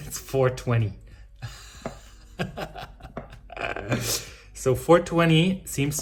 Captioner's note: laughs